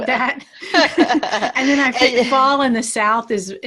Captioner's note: laughs